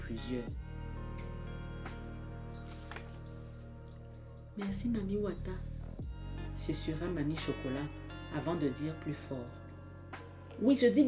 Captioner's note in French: Bruit de page qu'on tourne